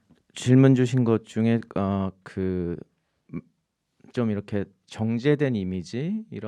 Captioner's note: speaking in Korean